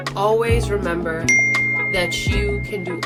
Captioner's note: bell dings